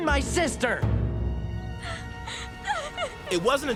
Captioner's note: crying